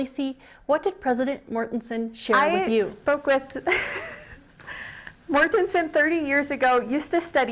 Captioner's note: laughs